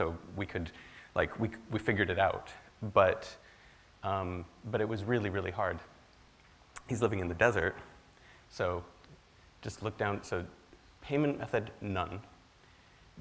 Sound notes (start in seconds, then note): 9.2 speaks foreign language